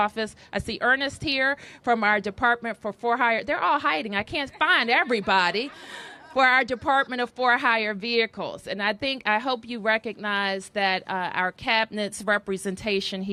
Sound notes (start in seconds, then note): 4.4 laughter